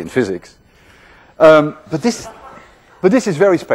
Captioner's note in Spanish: risas dispersas